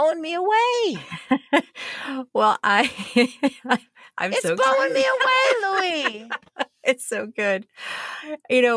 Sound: laughter

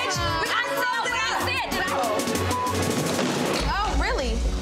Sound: girls shouting

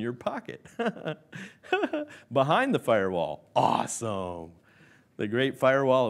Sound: laughs

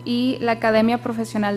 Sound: speaking foreign language

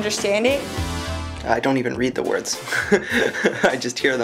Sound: laughs

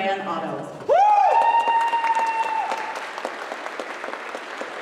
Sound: applause

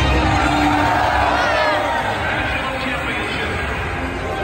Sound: audience cheering

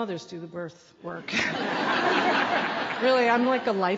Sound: laughter

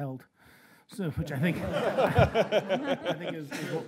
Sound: laughing

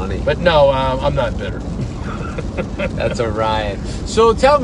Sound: laughs

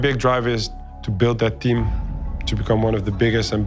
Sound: none

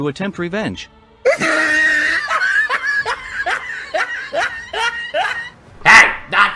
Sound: laughs

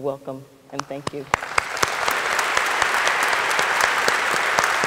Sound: audience applauding

